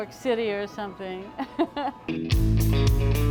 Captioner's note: laughs; upbeat rock music